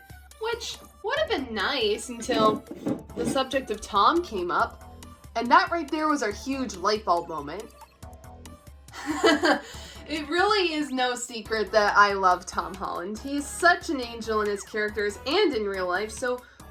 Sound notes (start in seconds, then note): 8.7 laughs